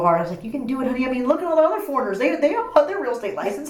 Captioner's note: laughs